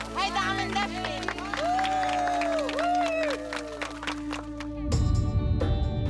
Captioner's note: cheers and applause